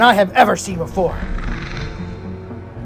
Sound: raptor Sounds

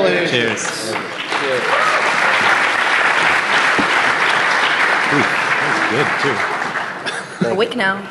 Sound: applause

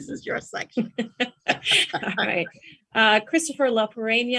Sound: laughs

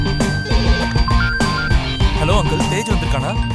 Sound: phone rings

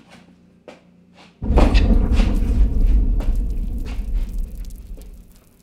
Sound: muffled explosion

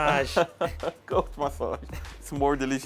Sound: laughs

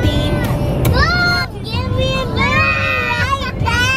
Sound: kids shouting

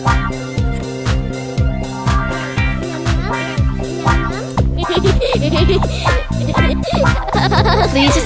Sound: num num, laugh

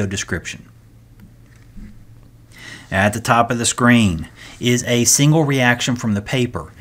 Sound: turn page

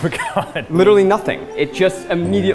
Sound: chuckling

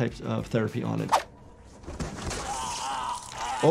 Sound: victim gasps and gurgles

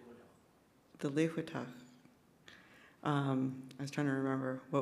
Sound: speaks in Sk1wx1wu7mesh

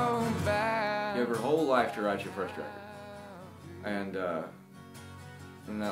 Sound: speaks

